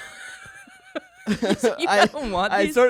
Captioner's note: everyone laughs